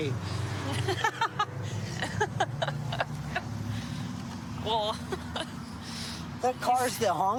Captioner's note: laughing